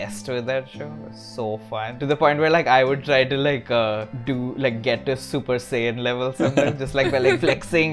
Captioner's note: laughter